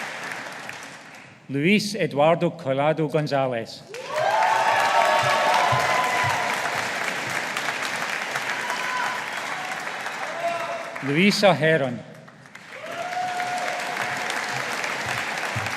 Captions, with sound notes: Luis Eduardo Collado Gonzalez. (AUDIENCE APPLAUDING) Luisa Heron. (AUDIENCE APPLAUDING)